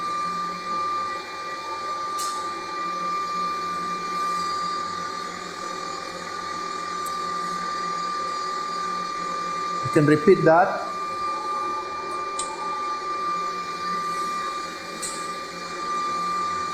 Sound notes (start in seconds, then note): 0.2 pipes hum; 11.6 pipes hum